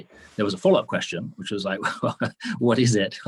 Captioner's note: chuckles